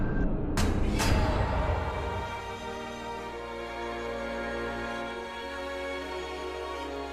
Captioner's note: whack clang!!!; whack clang!!!!!